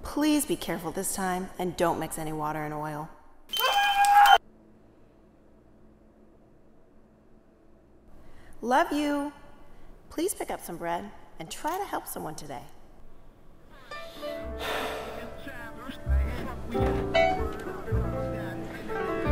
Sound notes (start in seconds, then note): 3.6 alarm beeping; 3.7 man screaming; 14.5 man sighing; 15.0 hip-hop music